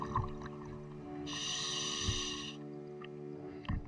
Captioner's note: diver breathing